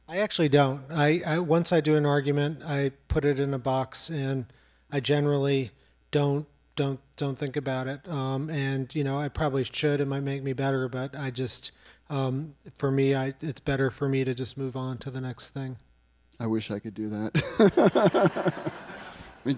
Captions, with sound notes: - I actually don't. Once I do an argument, I put it in a box, and I generally don't think about it. I probably should, it might make me better, but I just, for me, it's better for me to just move on to the next thing. - I wish I could do that. (laughs) (audience laughs)